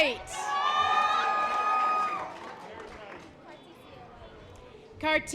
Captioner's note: audience applause